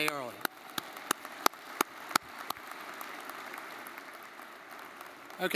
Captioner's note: crowd applauding